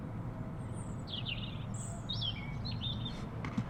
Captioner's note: birds chirping